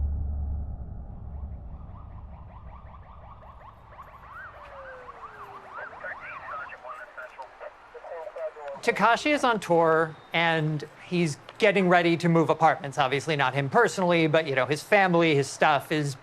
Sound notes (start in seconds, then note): 1.9 siren chirping; 6.2 police radio in background